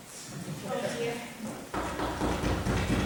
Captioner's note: knocking sound